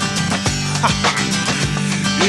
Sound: chuckles

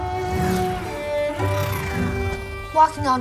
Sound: loud whooshing

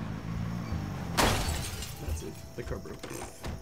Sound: crashes

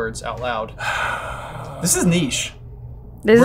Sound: sighs

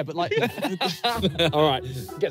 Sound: everyone laughing

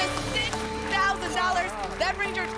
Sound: applause

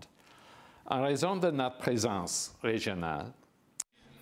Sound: speaking in French

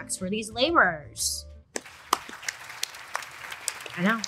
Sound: crowd applauding

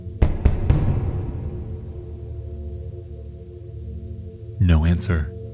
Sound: high intensity music; security guard pounding on door

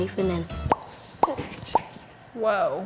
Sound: popping tongue

